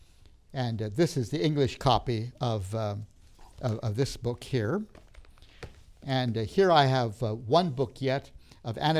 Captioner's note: rustling sounds